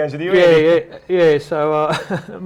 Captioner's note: laughter